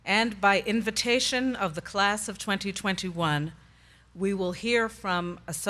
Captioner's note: none